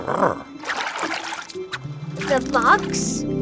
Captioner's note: Big Lizard grunts; water sloshes